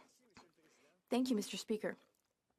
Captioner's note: speaking French